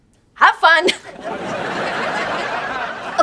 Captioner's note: laughing